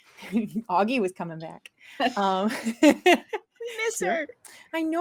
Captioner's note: laughs